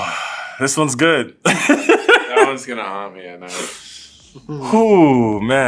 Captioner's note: laugh